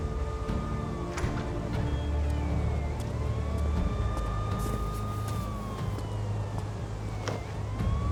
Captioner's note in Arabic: صافرات الإنذار في المسافة